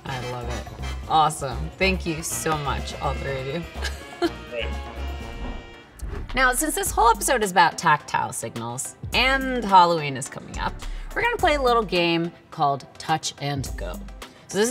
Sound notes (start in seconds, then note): 3.8 chuckles; 5.0 bright music continues